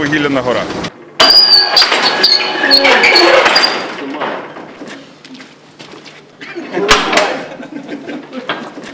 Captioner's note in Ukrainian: відчиняються двері